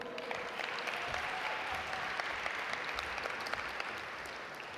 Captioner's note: audience applaud